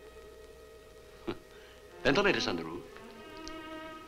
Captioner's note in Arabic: يضحك